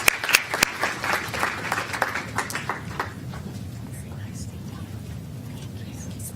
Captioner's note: applause